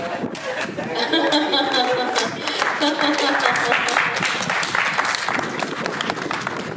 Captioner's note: Meg laughing; audience applauding